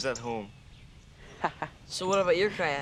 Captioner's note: chuckles